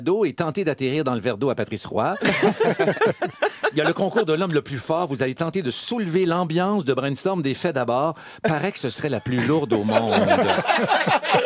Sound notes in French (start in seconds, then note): 2.1 rires